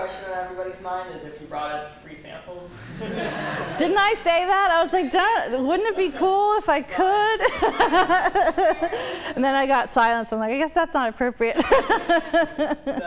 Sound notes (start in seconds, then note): 7.3 laughter; 11.5 laughter